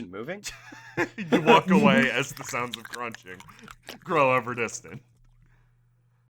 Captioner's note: laughter; sounds of Crunching